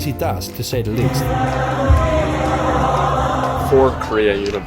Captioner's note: korea students cheering